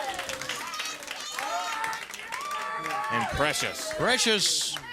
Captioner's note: crowd cheering